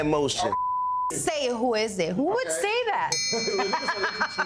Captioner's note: beep